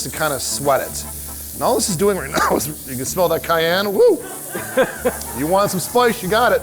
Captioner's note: laughter